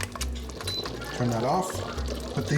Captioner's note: beeps